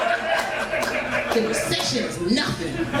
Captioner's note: crowd laughs